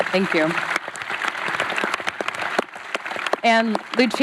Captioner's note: applause